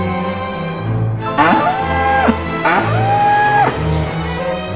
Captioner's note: корова реве